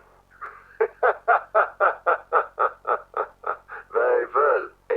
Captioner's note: VON FREEZE laughing